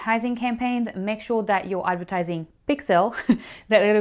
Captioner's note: chuckles